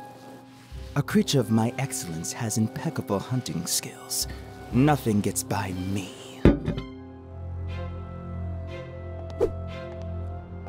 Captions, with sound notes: A creature of my excellence has impeccable hunting skills. Nothing gets by me. (planters clank)